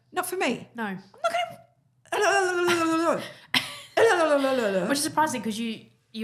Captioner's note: babbles